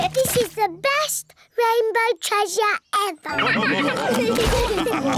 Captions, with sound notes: This is the best rainbow treasure ever! (ALL LAUGH)